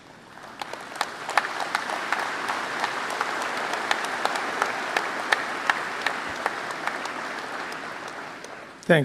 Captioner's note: applause